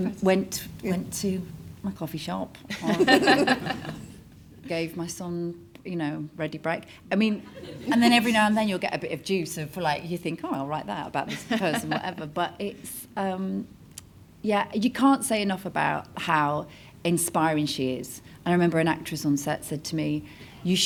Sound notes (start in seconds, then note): 2.7 laugh; 7.6 audience laughs